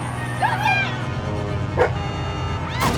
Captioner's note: Aboiement de chien